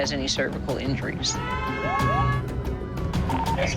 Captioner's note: siren